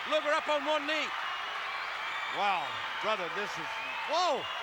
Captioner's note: applause